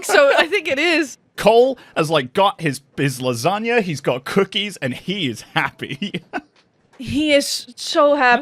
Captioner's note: laughs